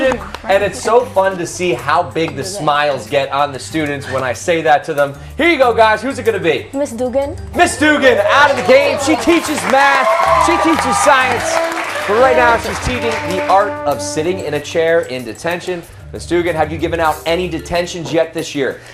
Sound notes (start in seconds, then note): 11.1 cheers and applause